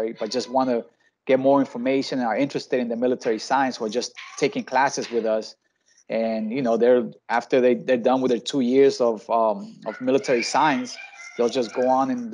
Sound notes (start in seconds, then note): 9.8 children screaming